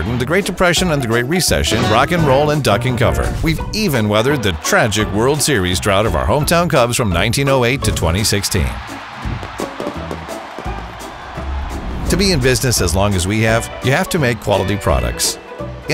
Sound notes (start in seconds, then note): 9.2 fireworks crackling; 9.3 crowd cheering